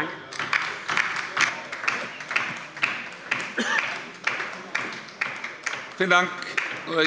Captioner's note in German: Beifall bei der LINKEN